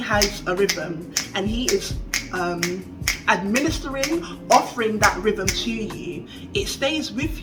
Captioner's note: clicks steadily